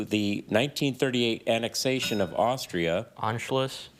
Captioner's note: bell dings